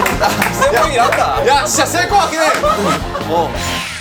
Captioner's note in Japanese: 大爆笑